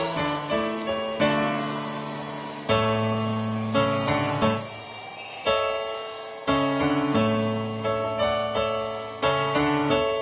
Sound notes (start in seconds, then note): 1.0 applause; 1.4 recessional music